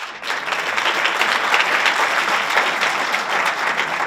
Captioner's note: audience applauds